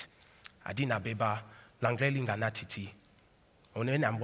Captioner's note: Cameroonian dialect